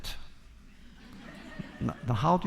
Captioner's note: laughter